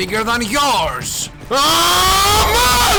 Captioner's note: charging intensifies